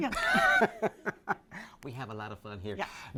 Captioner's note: laughing